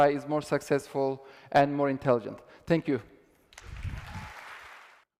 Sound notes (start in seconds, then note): 3.5 applause